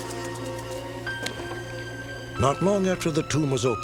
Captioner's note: insect buzzing